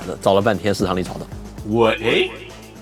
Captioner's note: echo